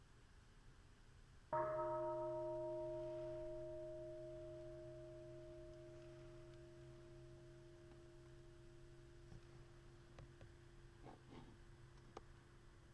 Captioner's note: bell chimes